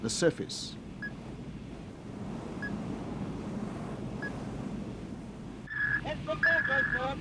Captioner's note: radar beeps